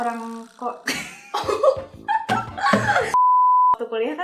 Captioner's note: laughing